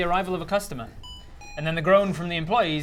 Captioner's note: bee-boop